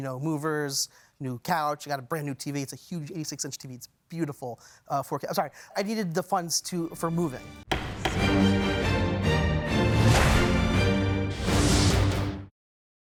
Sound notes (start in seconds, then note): 7.3 intense music; 7.6 gavel banging